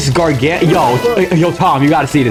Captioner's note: something in Spanish